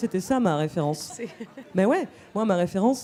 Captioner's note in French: riant